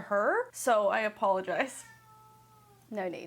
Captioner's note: cat meows